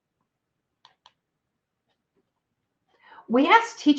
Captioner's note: computer mouse clicks